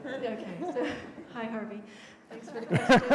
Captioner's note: laughter